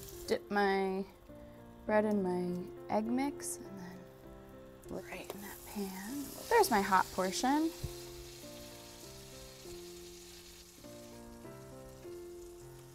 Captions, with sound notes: dip my bread in my egg mix right in that pan. [sizzling] There's my hot portion.